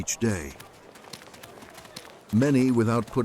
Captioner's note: boot steps